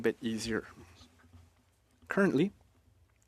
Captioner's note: speaking French